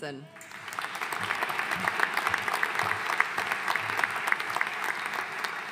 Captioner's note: audience cheering and applauding